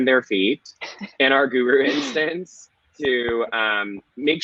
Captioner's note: laughing